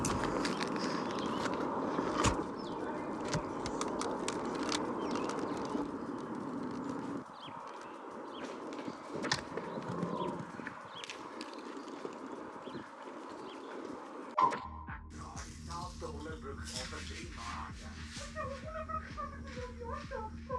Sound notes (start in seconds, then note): 2.3 tugging string; 3.2 hamster ball rattling